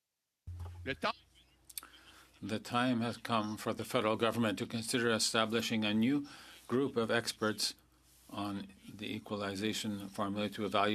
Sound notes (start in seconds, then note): 7.0 speaking French